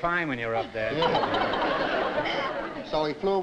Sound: laughter

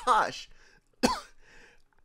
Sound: maniacal laughter; cough; slight coughing

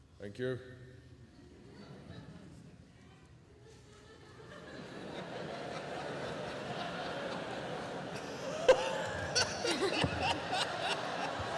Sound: laughter

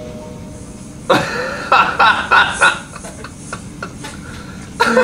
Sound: laughs

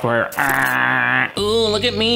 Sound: groaning

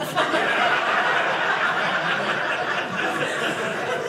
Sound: audience laughing

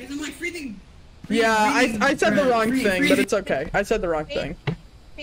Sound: stammering

